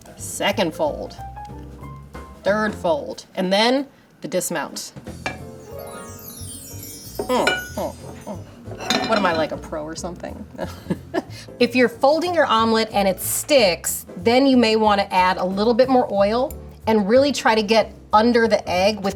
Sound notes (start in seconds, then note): 5.4 magical music; 10.8 laughs